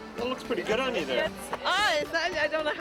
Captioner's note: voiceover